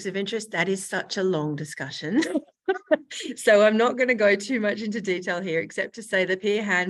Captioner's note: laughs